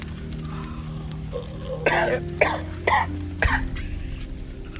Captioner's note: Ishmael coughing